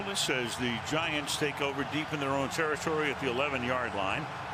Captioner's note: cheering